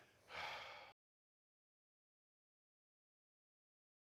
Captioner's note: sighs